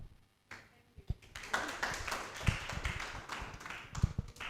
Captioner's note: applause